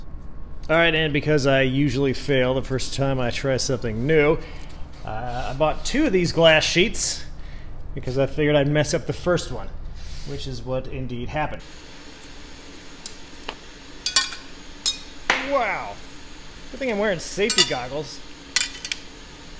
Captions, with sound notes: All right, and because i usually fail the first time i try something new, i bought TWO of these glass sheets, because i figured i'd mess up the first one— which is what indeed happened. [tink] [clank] [tink] Wow! Good thing i'm wearing [clank] safety goggles...